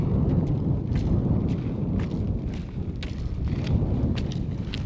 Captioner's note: feet tapping